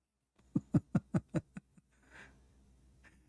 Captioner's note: Ketawa